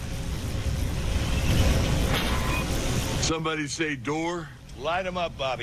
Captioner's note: wind blowing